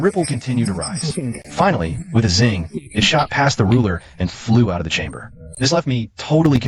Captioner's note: zing